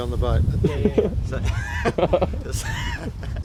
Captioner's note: laughter